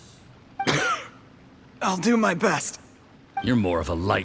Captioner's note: cough